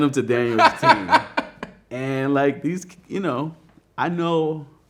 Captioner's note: man laughing